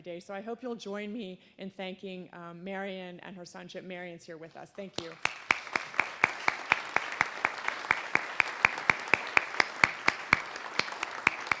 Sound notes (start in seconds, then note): 4.7 applause